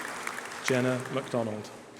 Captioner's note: applause